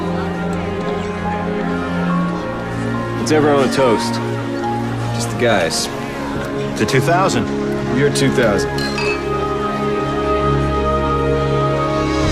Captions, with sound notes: Let's have our own toast.. ...just the guys. - To 2000. - The year 2000. [glasses clinking]